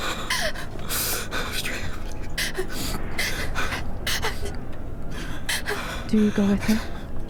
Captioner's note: whispering